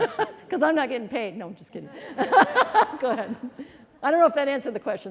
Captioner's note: laughing